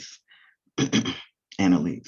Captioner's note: clears throat